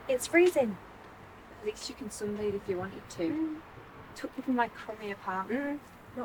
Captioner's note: none